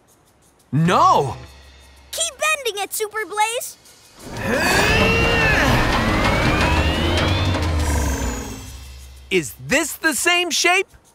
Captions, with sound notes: No. Keep bending it Super Blaze. [grunting] Is this the same shape?